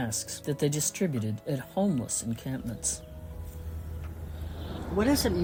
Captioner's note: music fades out; bird sounds of Stanford campus